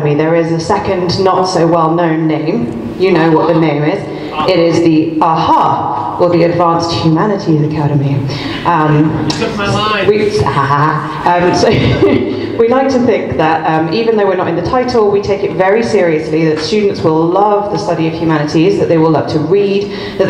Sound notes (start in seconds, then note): 10.4 laughs